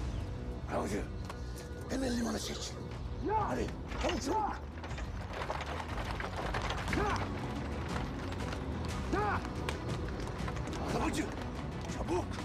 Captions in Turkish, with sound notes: Arabacı, hemen limana çek. Hadi. Çabuk, çabuk! (At arabası sesi) Arabacı, çabuk!